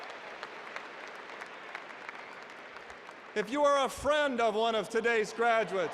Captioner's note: applause